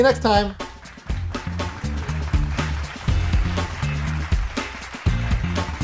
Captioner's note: audience clapping